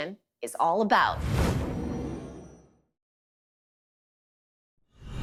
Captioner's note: transition sound; transition sound